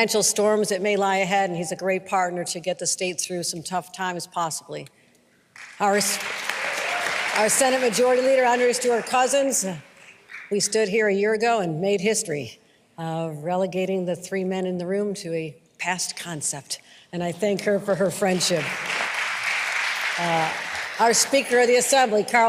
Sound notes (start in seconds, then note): 8.9 applause